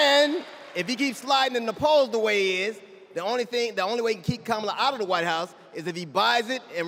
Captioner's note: cheers and applause